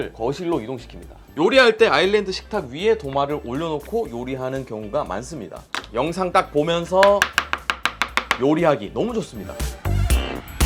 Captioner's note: chop chop chop